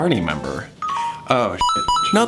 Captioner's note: text notification beeps